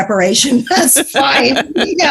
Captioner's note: chuckles